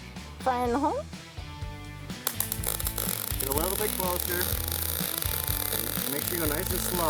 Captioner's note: spark sounds